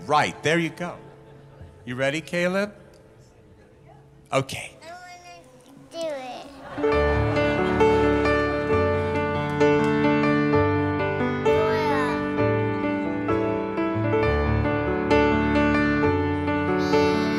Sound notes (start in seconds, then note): 6.4 audience chuckling; 13.7 lively piano music